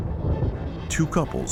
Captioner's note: thunder rumbling